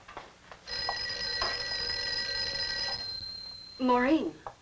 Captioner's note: phone ringing